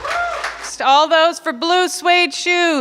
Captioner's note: clapping